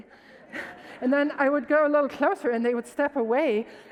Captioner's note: audience laughs